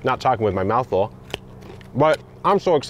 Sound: carrot snapping

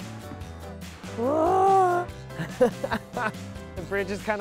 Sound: laughs

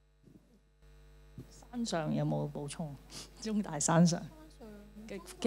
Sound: Cantonese

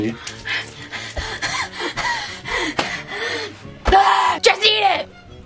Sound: gasping

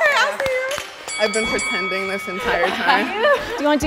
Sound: encouraging chatter; sarcastically

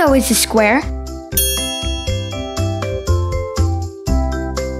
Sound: bell dings

